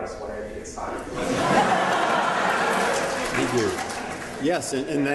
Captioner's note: laughter